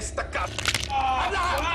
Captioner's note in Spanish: Quejidos